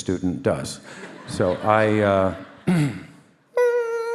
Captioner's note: clears throat; audience laughing